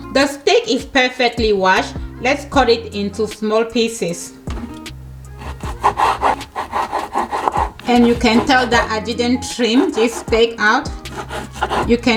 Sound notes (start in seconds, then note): 5.4 knife scrapes